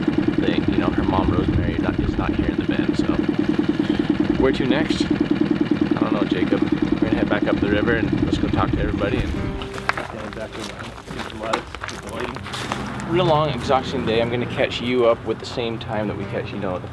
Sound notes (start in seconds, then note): 8.8 heavy footsteps